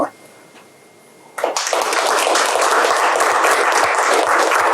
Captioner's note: applause